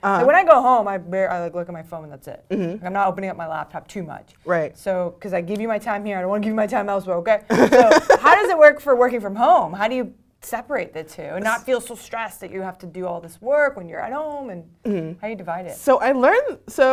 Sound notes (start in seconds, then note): 7.5 laugh